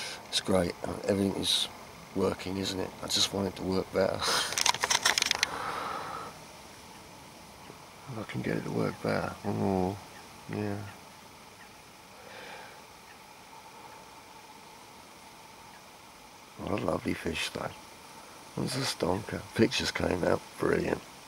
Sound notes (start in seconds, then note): 4.1 laughs